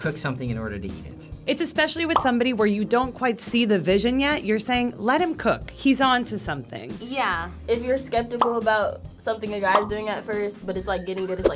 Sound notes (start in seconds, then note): 2.1 bubble pops; 9.6 bubble pops